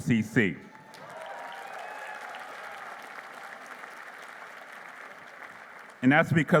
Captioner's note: applause